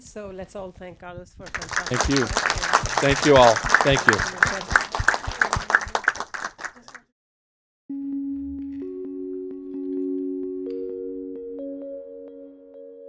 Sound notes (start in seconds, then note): 4.6 applause; 7.9 slow music